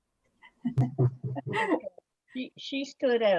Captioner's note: people laughing